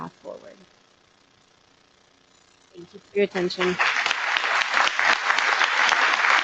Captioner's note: applause